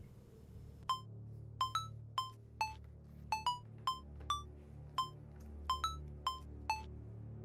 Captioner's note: dark suspenseful music; phone rings